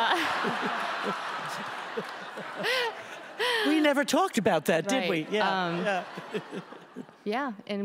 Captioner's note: audience laughs